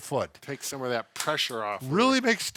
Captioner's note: hands slap